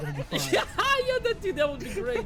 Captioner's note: laughs